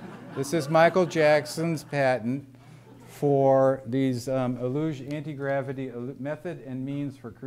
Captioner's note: laughter